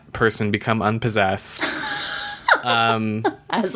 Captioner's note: laughs